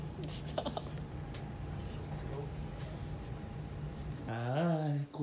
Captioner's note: chuckles